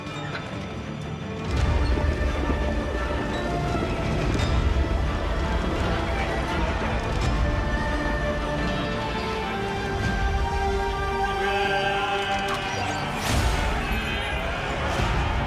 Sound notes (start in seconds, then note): 3.3 horses galloping